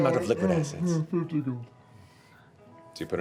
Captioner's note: yawning